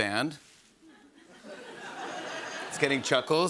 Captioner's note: light laugher